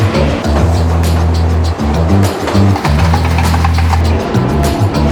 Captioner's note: pounding